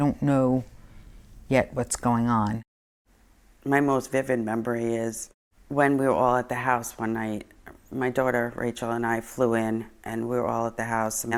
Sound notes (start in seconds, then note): none